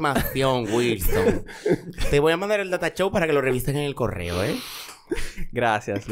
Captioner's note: laughs; laughs